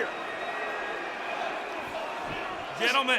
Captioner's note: audience cheering